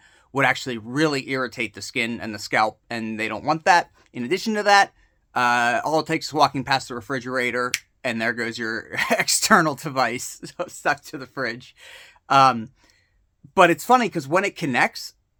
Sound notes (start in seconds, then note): 7.7 snap